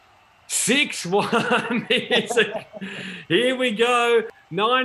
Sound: laughs

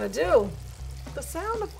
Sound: oil sizzling

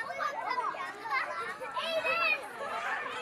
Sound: indistinct shouting

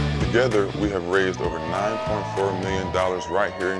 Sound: group cheers

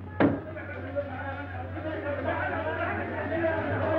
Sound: chattering

